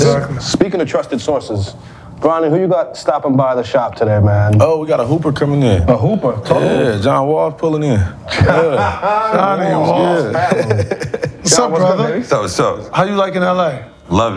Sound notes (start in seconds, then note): 8.3 laughs